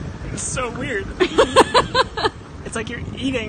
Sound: laughs

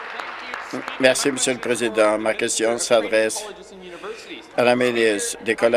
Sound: some Applause

